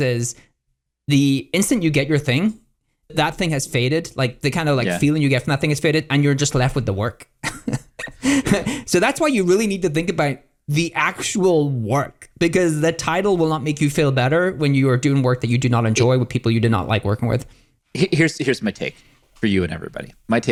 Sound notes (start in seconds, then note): 7.4 laughs